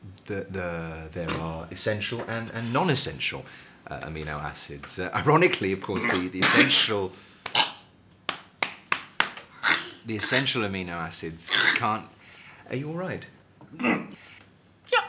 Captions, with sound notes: - Well, there are essential and non-essential amino acids. Ironically of course, the essential... [ choking] ...the essential amino acids can't... Are you alright? - Yeap.